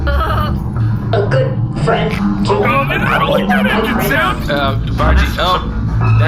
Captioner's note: rattling gets worse